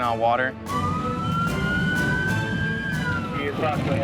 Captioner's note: sirens